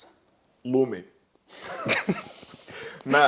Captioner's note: laughter